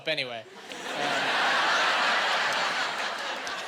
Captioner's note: laughing